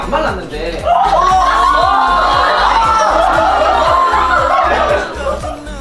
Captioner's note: shocked